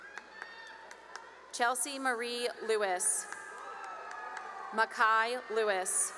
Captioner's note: cheering and applause